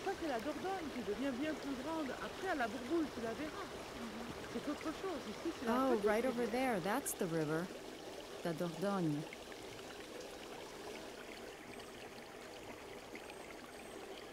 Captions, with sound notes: - [Voiceover] Oh, right over there, that's the river, the Dordogne. (running water)